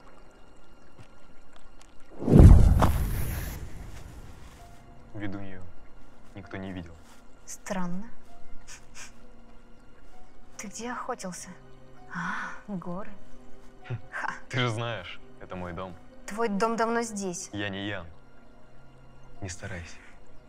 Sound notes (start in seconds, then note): 2.2 magic sound